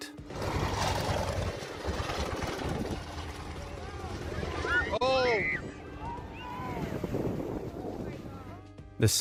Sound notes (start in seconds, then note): 0.1 plane engine revving; 4.0 crowd screaming; 6.2 waves crashing; 7.1 wind blowing